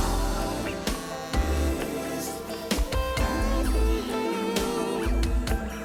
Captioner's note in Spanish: Vibra el celular